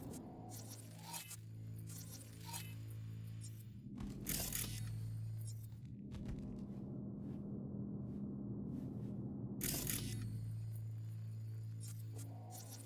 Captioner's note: footsteps